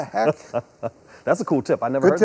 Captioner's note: laughs